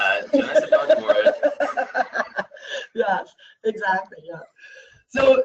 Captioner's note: laughs